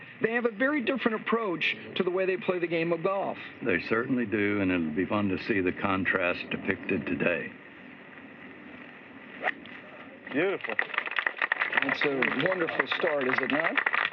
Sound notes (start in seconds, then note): 10.4 applause